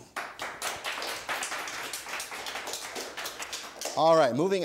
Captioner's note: audience applause